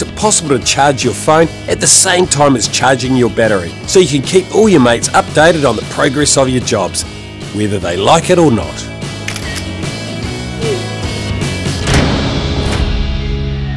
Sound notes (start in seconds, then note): 9.2 camera click